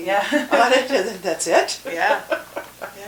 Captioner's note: both laughing